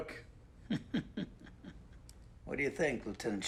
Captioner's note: chuckles